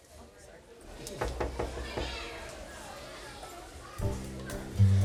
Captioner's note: knocking on door